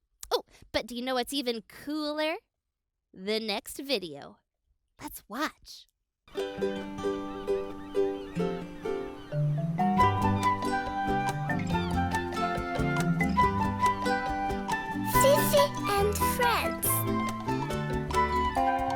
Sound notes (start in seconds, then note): 6.5 cheerful music; 7.0 birds squawking